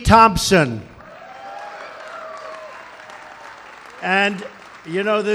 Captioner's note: applause